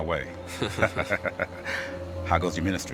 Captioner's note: both laughing